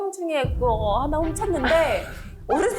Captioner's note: she did steal something sound effect